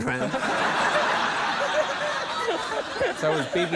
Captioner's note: laughter